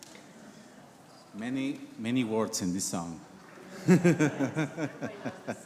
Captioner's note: laughs; congregation murmurs